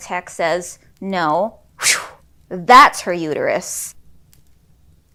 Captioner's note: imitates air whooshing